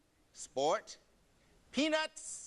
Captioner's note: none